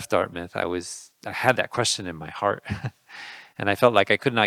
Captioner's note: laughing